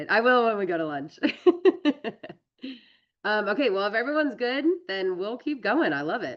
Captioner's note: laughs